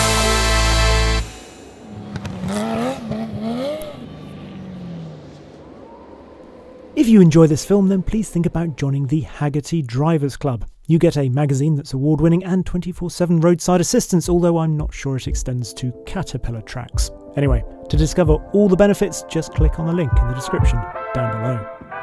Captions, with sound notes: (car engine revs) (wind blowing) If you enjoy this film, then please think about joining the Hagerty Driver's Club. You get a magazine that's award-winning and 24/7 roadside assistance, although, I'm not sure it extends to Caterpillar tracks. Anyway, to discover all the benefits, just click on the link in the description down below.